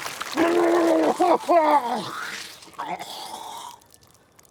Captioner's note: Walter sputtering